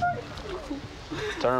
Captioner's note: whimpering